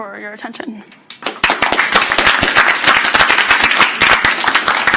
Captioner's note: audience clapping